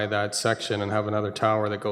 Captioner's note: none